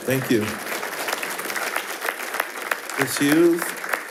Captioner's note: attendees applauding